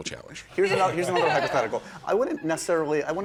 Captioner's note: laughter